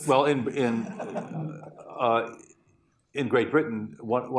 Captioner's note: laughter